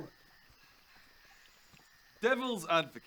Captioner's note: unimpressed silence